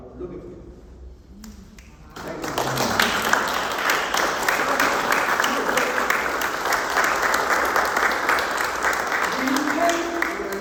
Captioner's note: applause